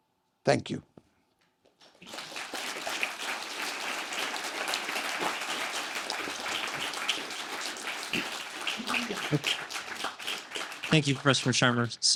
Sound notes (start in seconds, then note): 2.2 applause